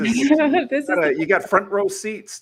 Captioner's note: laughs